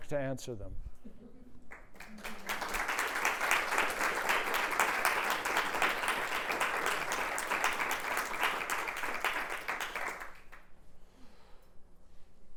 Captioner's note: applause